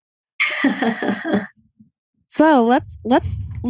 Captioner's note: laughs